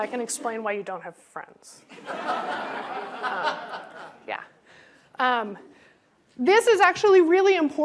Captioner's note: laughter